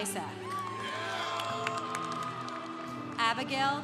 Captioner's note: congregation applauding